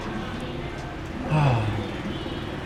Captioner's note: sighhhh